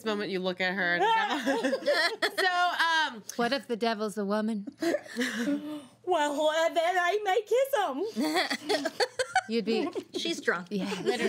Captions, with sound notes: - And at this moment you look at her and go-- - Ah. (girls laugh) - So-- - What if the devil's a woman? - Well then I might kiss em'. (girl laughs) - You'd be-- - She's drunk.